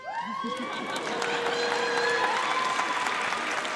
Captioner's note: audience laughs; audience applauds